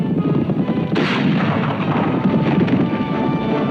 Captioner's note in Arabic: أصوات البنادق; موسيقى مثيرة